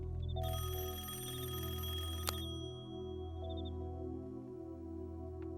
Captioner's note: rings